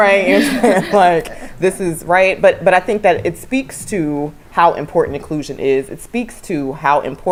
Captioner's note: laugh